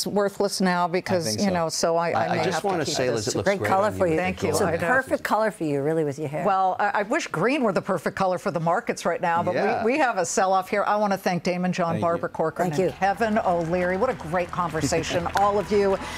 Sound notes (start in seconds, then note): 2.2 laughter